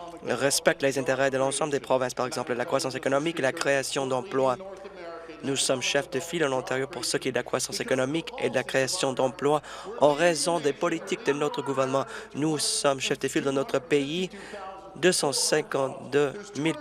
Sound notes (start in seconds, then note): none